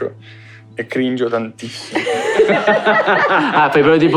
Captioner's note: laughs